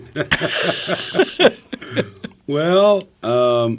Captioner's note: everyone laughs